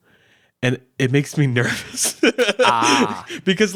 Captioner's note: laughing